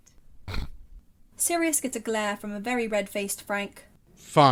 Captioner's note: Sirius snorts